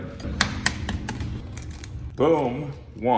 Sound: egg cracking

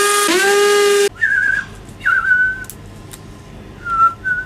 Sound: whistling

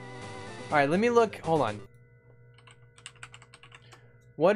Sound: keyboard clicking

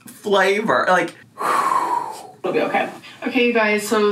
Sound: exhaling heavily

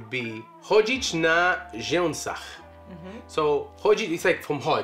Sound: foreign language

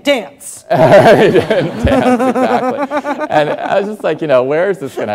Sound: laughing

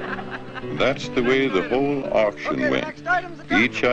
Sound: crowd laughs; voiceover

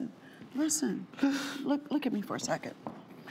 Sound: sobbing

